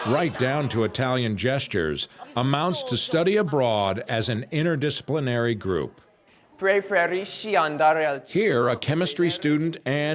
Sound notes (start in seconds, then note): 6.7 speaking foreign language